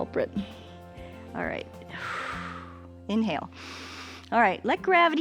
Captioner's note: exhales; inhales